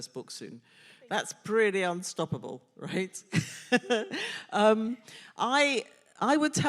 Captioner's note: laughs